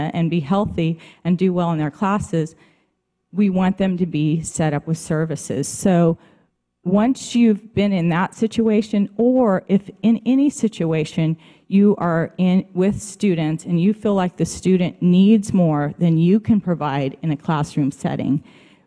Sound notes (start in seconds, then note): none